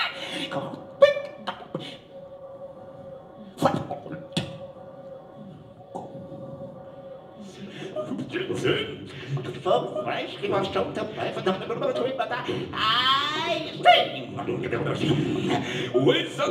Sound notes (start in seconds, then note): 3.9 making various mouth sounds; 7.7 vocalizing syllables and pitches